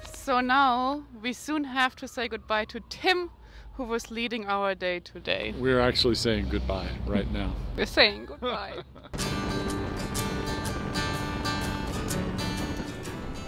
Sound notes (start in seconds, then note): 8.1 chuckling; 10.8 lively music